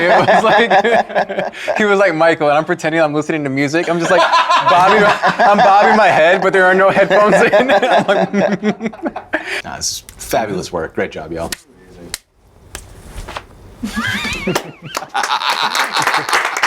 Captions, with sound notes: It was like, he was like, Michael, and I'm pretending I'm listening to music. I'm just like, I'm bobbing my head, but there are no headphones in. (laughing) That's fabulous work, great job, y'all. (clicking) (laughing)